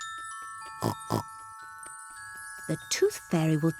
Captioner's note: oinks